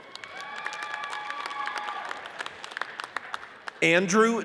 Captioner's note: audience cheers and applauds